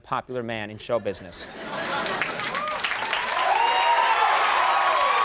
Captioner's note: audience cheering